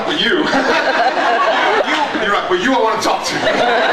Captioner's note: laughs